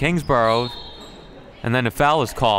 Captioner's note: referee blows whistle